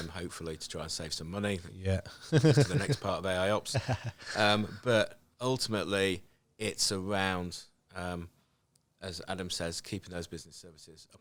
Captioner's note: laughing